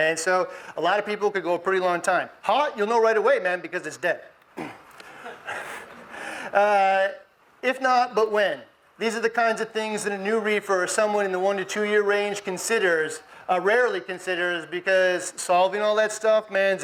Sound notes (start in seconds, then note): 4.6 laughs; 5.1 audience laughs